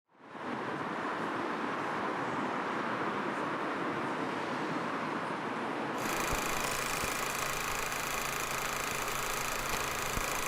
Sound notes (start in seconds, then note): 0.2 traffic whooshing; 6.0 film reel spooling